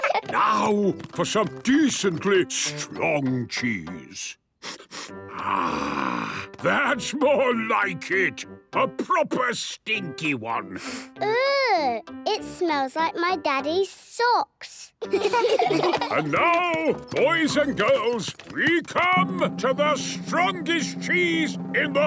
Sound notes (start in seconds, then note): 4.6 sniffs